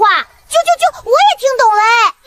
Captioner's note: chirp chirp chirp